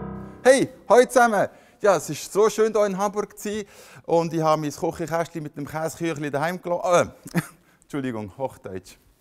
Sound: begins speaking in Swiss German/Schweizerdeutsch

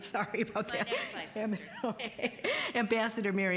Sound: laughing

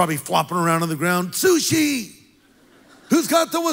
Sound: congregation laughs

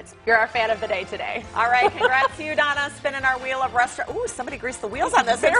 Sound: laughter

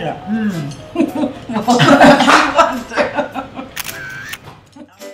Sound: laughter

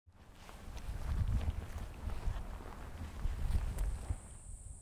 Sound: grass crunching

